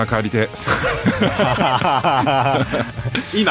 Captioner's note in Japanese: 笑い